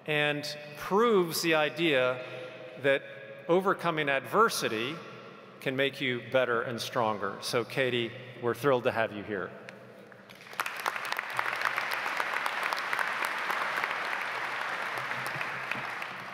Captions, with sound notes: and proves the idea that overcoming adversity can make you better and stronger. So Katie, we are thrilled to have you here. (audience applauds)